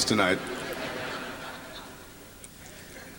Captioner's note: laughter